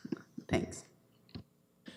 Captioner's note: chuckles